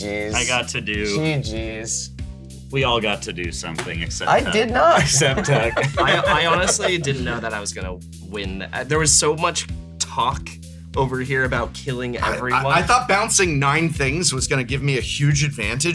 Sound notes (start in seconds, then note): 4.4 laugh